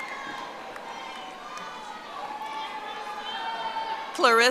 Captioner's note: audience applauding